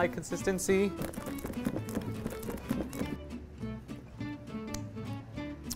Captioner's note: bowl and spatula rattling